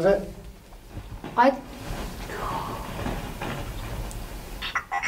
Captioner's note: clattering